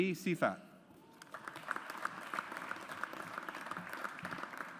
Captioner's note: audience applauds